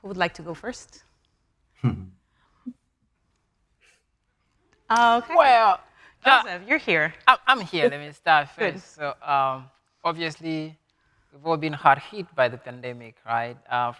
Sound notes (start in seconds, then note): 1.8 chuckling